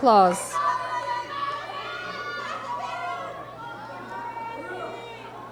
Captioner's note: audience yelling encouragement